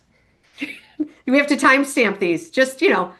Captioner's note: laughs